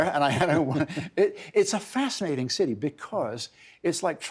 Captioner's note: laughter